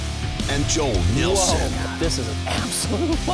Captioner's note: voiceover